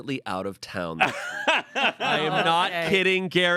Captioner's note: laughs